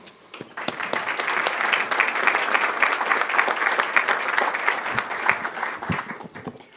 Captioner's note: applause